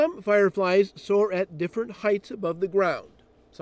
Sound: voiceover

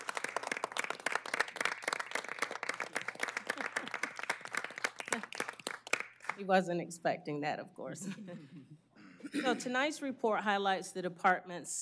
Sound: applause

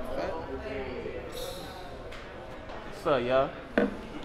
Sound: blows out air

